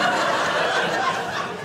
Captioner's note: audience laughing